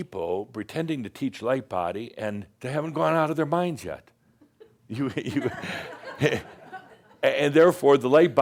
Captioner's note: some chuckles